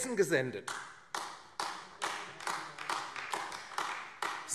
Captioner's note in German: Beifall AfD